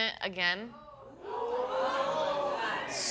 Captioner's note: audience gasps